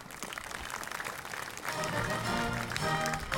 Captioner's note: audience applauding; lively orchestral music